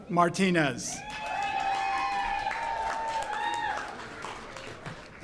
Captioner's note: audience cheers